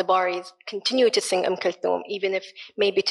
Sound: speaks in foreign language

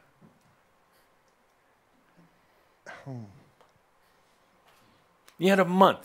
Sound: he pauses

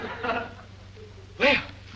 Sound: audience laughs

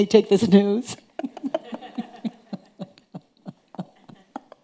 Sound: chuckling

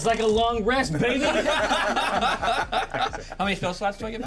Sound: laughs

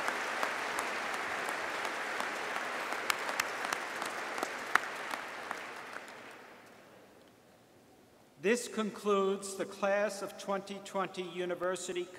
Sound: applause

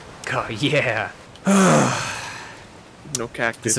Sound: big sigh

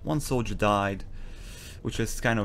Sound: sharp inhale

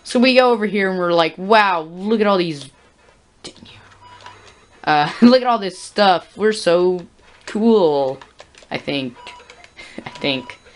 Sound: whispers "Dang it"

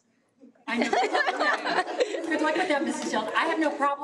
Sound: all laughs

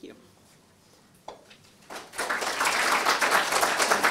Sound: applause

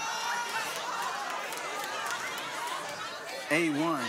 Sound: audience gasping

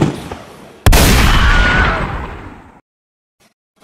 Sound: gunshot; explosion; screaming

